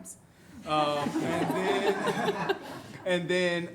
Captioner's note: everyone laughs